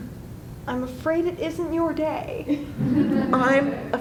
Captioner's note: laughter